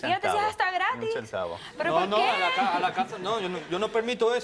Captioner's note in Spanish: Risas